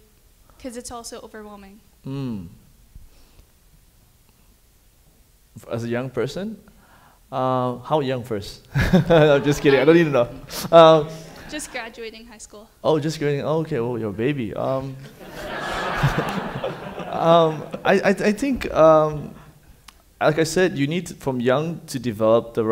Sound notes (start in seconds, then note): 8.7 chuckles; 15.0 audience laughing